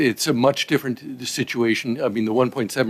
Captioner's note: speaking French